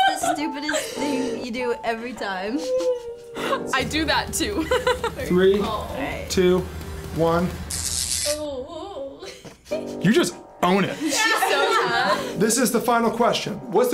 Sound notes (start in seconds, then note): 4.4 laughs; 6.8 electricity crackles